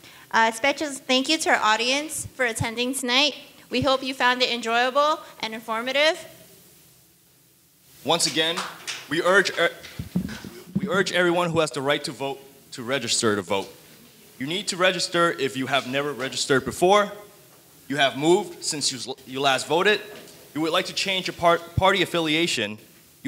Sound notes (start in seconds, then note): 8.2 audience lightly applauding